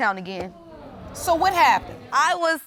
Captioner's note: audience exclaiming